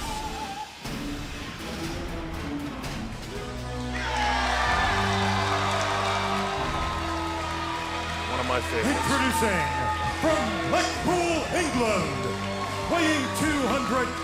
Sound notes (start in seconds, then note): 2.3 crowd cheering